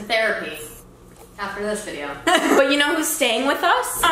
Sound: laughs

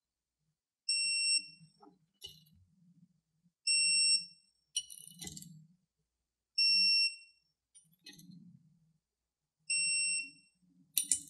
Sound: beeps from Torque Wrench

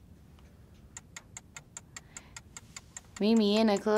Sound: clock ticking

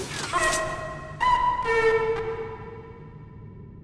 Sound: glitched audio

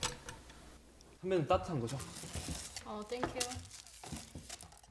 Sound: bong

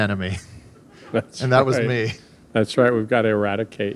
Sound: laughing; laughs

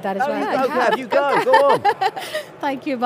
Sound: laughs

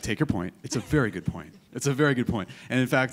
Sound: chuckling

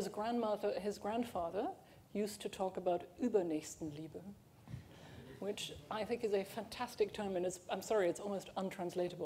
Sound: german

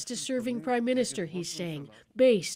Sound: speaking foreign language

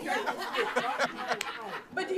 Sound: everyone laughs

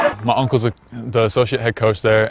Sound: crowd

